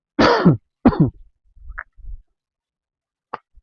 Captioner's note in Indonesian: batuk; berdehem